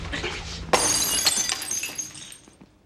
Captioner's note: glass shatters